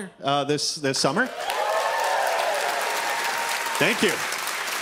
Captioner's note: audience cheering